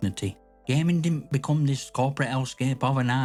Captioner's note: tone grows colder—firm, calm, unflinching